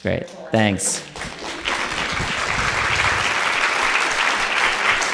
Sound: audience applauding

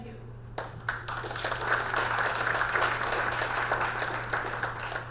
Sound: audience clapping

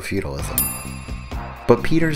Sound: ding!

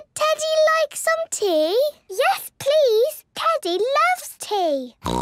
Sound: snort

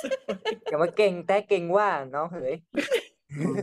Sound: speaking in Northern dialect

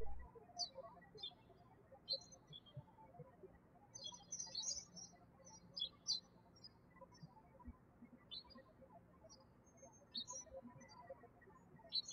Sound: birds chirping

